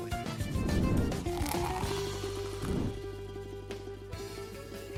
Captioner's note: liquid flowing